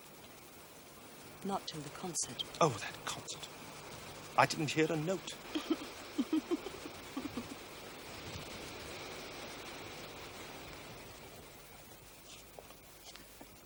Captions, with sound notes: not till the concert. oh, that concert. I didn't hear a note. ( laughs softly )